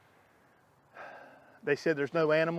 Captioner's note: sighs